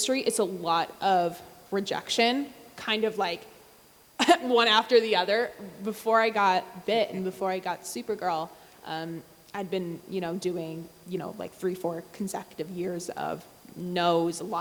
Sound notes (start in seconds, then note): 3.7 laughs